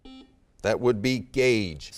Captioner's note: beeping